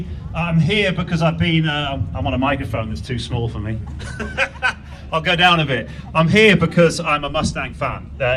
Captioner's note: laugh